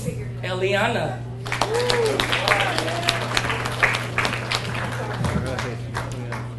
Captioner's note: audience cheers and applauds